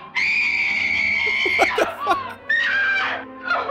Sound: laughing

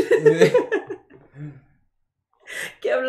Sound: more laughter

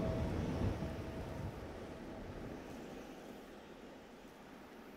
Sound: wind whistling softly

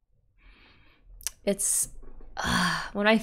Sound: sighs

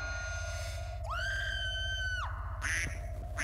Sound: scream coming from tv; phone rings - duck sound

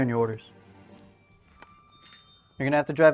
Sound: keys jingling

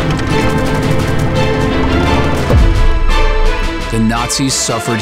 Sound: airplane engines and bombs

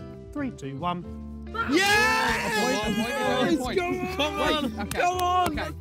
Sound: Red team exclaiming

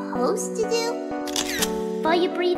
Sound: camera shutter

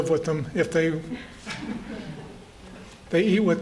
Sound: laughter

